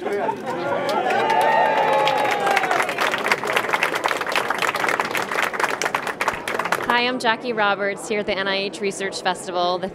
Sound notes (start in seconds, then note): 0.5 cheering and Applause